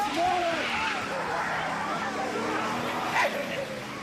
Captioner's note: laughing; tires squeal